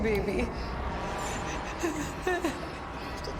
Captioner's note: crying